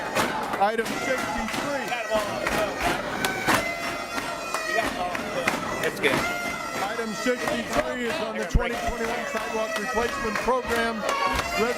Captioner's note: audience chanting we vote no